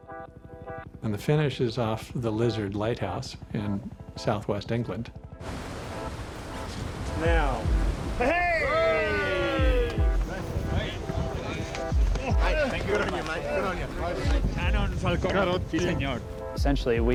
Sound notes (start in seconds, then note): 8.2 cheering; 14.3 speaking in foreign language